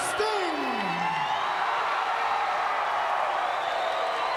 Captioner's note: fans cheering